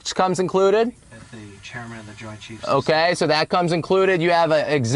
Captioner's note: radio sound